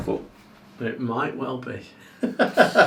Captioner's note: laughing